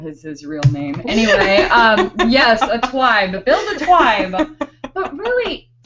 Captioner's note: laughing